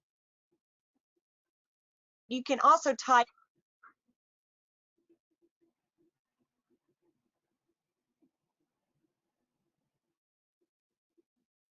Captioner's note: silence